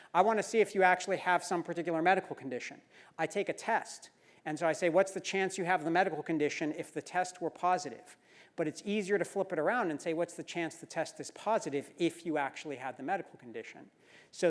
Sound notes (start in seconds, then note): none